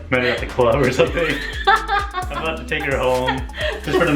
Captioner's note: laughing